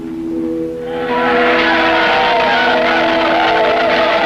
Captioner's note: crowd chanting